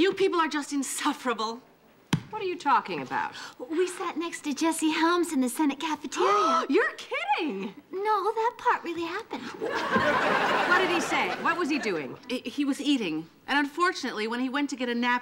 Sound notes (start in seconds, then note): 6.5 gasping